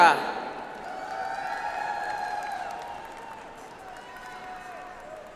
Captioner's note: audience applauds